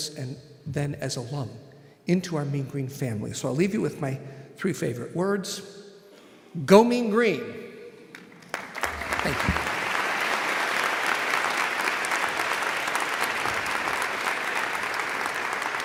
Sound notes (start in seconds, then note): 10.8 audience applauding